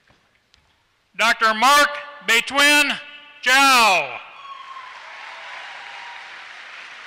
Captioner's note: applause